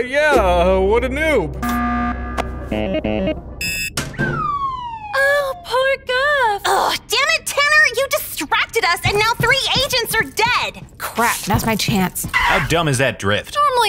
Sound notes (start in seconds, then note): 1.6 alarm buzzes